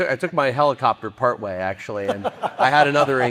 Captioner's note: laughing